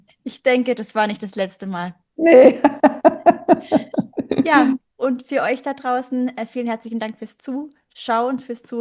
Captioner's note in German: gelächter